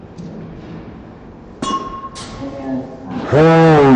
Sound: bat clinks

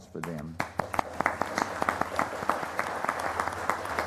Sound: applause

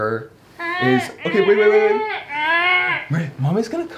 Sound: verbalizing

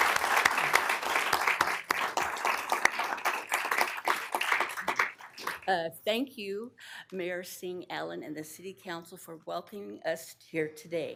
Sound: applause

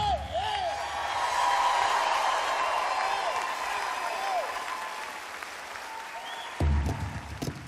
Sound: applause; instrumental

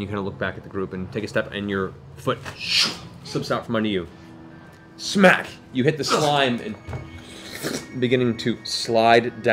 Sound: smack

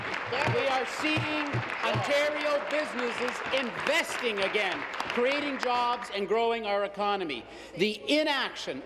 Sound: applause

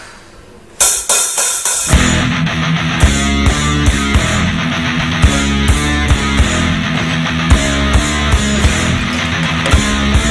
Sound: radio playing

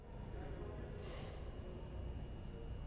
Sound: distant chatter

